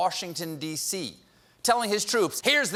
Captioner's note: none